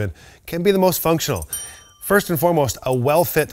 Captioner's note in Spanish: suena la campana